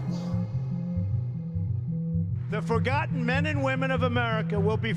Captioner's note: soundbite of archived recording